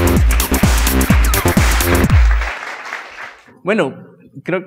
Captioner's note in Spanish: aplausos